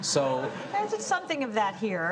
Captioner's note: audience laughs